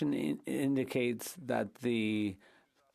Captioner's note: speaking French